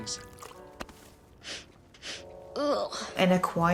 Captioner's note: sniffs